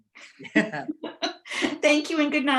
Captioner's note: laughing